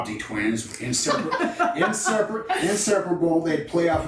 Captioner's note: women laughing